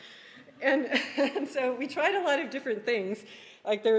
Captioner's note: laughing